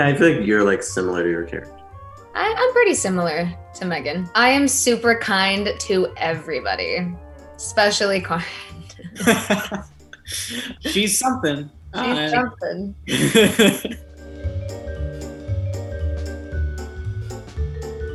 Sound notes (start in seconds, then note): 8.4 laughs; 13.1 laughs; 14.7 playful, cheery music